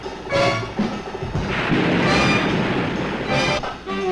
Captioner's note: waves crashing